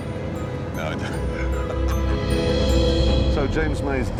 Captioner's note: both laugh